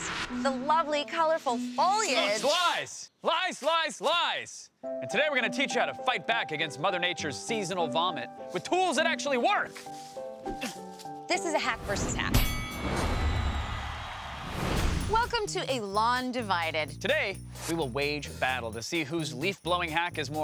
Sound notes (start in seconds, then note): 12.3 bell dings